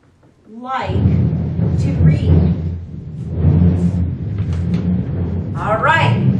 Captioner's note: mic noise